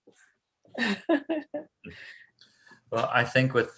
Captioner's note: laughs